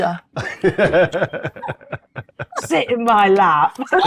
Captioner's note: laughs